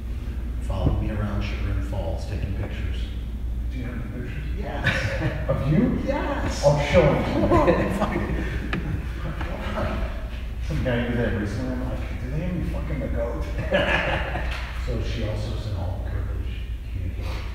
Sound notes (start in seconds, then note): 6.4 laughing